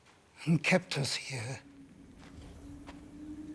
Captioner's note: wind whistles